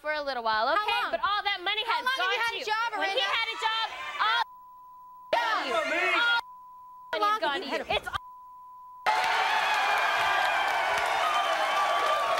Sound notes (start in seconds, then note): 6.1 beep; 9.0 audience cheering